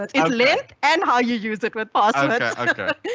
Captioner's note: laughs